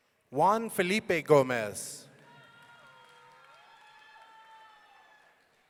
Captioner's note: audience cheering